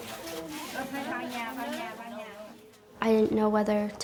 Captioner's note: speaking Vietnamese